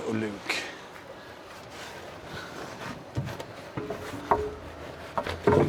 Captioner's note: footsteps